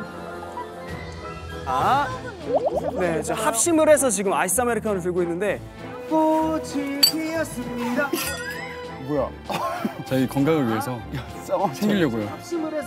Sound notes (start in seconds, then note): 7.0 clang